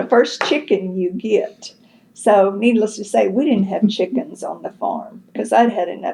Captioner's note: laughter